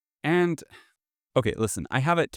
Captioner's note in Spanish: suspiro